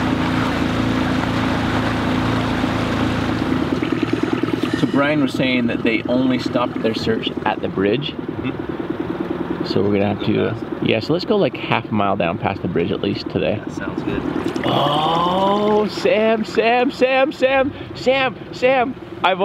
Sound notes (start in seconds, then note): 3.9 water splashing; 14.7 water splashing